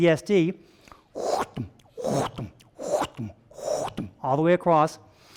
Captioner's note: vocalizing murmur